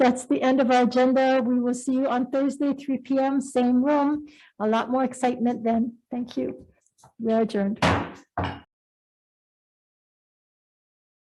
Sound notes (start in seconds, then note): 7.8 gavel bangs